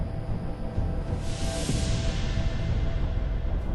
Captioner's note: action Music; wind Howling